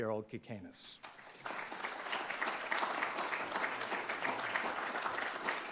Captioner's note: audience applauding